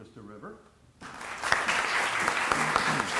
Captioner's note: applause